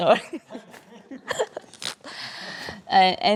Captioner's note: laughs; audience laugh; blows raspberry